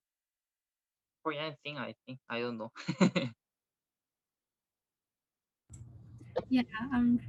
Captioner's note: chuckles